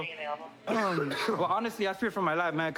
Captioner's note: coughs